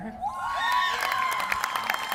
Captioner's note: applause